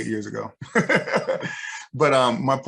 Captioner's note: laughs